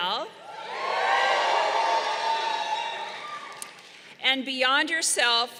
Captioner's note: crowd cheering